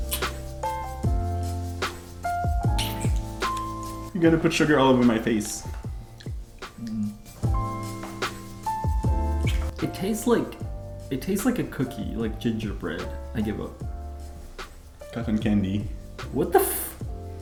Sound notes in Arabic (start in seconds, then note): 0.2 موسيقى هادئة; 1.8 أصوات تقبيل; 7.3 موسيقى هادئة; 9.2 أصوات تقبيل